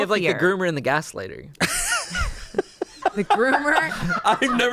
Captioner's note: laughs